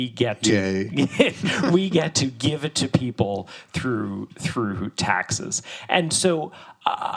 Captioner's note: laughs